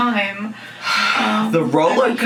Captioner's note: sighs